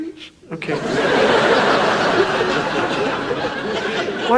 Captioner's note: audience laughs